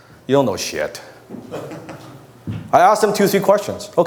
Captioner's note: audience laughs